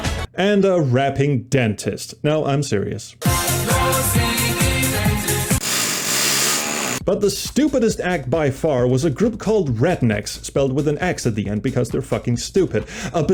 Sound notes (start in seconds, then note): 5.4 joyful drilling